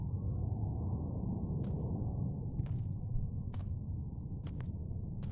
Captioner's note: footsteps crunching